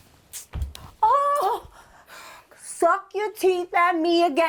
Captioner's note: sucks teeth